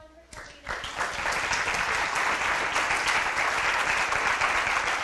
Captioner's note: audience applauding